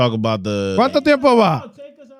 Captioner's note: speaking Foreign Language